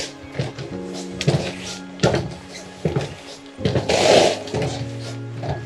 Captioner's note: heavy footsteps